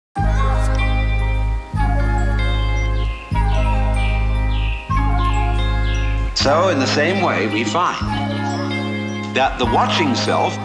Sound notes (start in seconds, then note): 0.0 bright dreamy music; 2.8 birds chirping